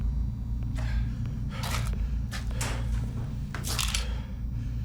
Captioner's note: breathing heavily